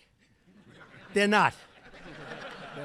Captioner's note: laughter